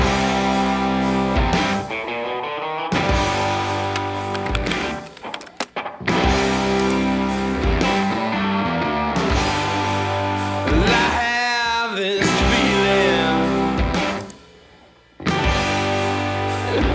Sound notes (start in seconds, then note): 3.8 typewriter clicking; 6.7 mouse clicking; 14.0 mouse clicking